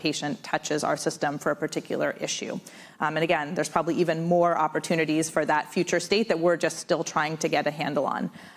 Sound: none

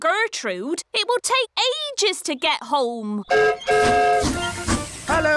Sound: whistle blows

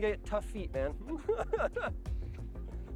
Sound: laughter

